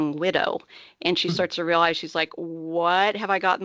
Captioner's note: chuckling